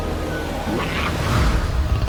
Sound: snarls; low guttural growl

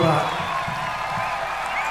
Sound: applause

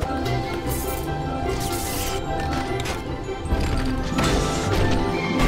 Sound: upbeat music; electricity zapping

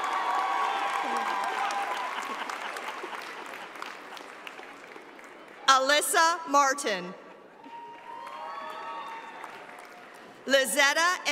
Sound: cheers and applause

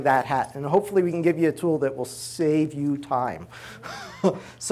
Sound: laughs

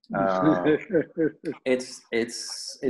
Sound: laughs

